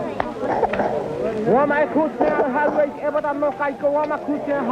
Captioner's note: non-english speech